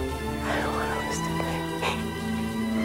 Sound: whispering

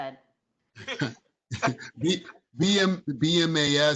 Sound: chuckling

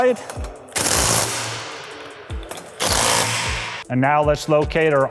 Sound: torque wrench buzzing

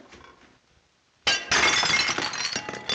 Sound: plate shatters

